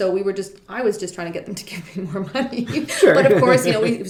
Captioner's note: laughing